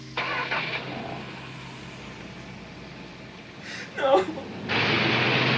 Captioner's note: engine turns